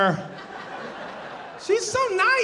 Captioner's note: audience laughing